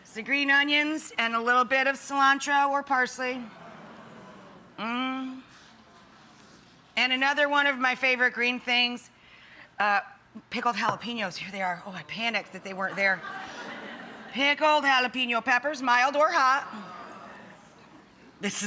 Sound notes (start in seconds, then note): 3.7 audience oohing; 12.6 audience laughing; 16.8 audience oohing